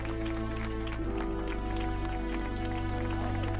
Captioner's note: crowd claps